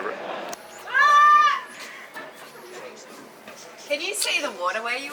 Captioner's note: woman screams loudly